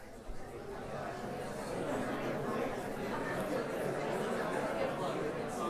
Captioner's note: indistinct chatters